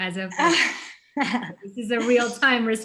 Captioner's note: laughing